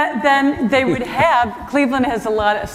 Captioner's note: laughter